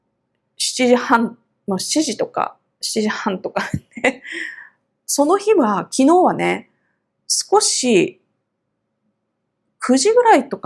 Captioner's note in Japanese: 笑い